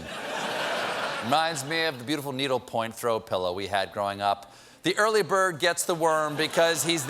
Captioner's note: laughter